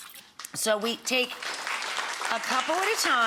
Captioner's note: audience applauds